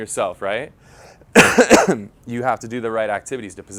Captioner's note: cough